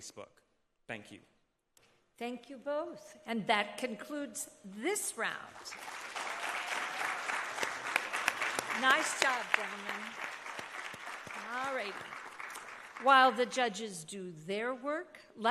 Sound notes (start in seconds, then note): 5.6 audience applauding